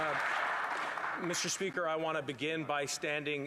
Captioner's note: applause